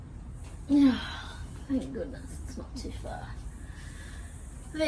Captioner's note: sighs